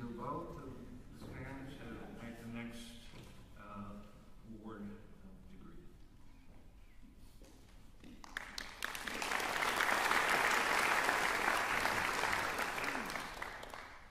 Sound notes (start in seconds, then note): 8.1 applause